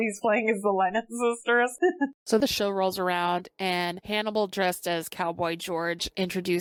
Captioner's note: laughs